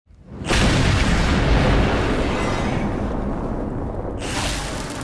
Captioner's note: lightning explodes